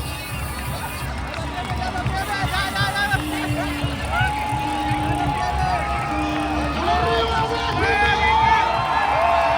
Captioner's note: cheering